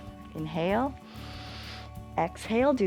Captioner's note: inhales